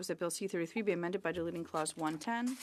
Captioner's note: speaking French